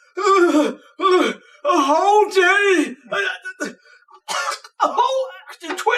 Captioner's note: gasping; spluttering